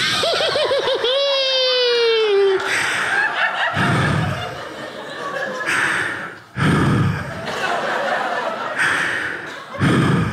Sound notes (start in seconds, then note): 0.1 laughs; 3.6 breathes heavily into microphone